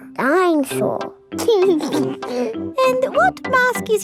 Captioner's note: giggles